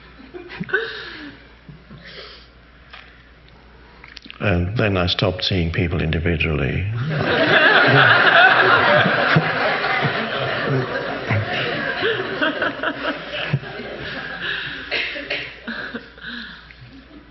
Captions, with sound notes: And then I stopped seeing people individually. (audience laughing)